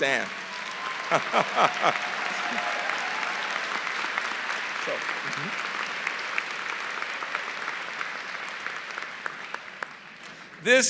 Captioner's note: applause